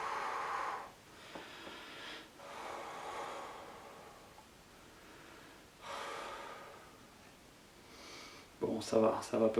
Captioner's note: deep expiries